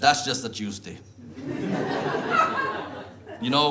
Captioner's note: audience laughs